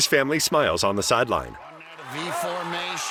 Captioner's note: cheering